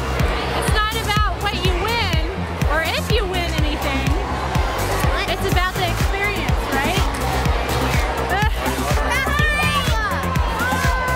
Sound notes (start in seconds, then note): 8.3 laughs